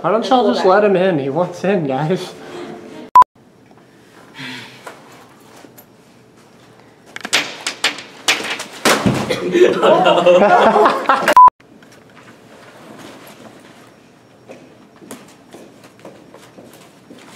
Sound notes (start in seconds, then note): 2.0 laughter; 3.1 beep; 8.9 thunk; 9.2 laughter; 11.3 beep